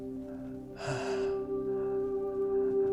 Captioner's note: gasps